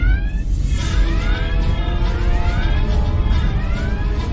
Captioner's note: danger pulse